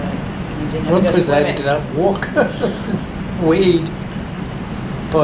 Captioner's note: laughs